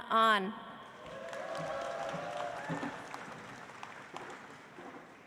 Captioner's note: audience applauds